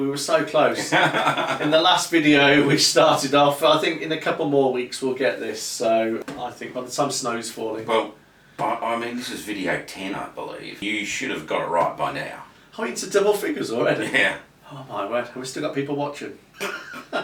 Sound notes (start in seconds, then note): 0.7 laughing